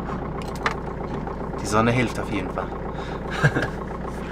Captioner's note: laughter